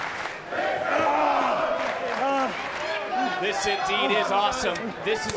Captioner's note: applause